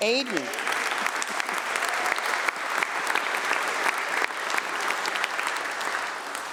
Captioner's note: applause